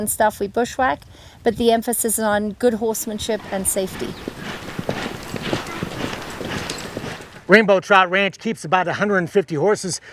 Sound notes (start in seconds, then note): 2.9 hooves thudding